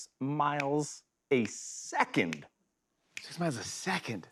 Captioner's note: fingers snapping